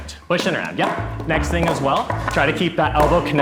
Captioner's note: wood thudding